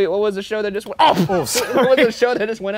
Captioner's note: exclaims; laughs